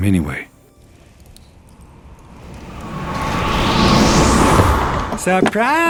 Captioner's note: fire crackles; wind howls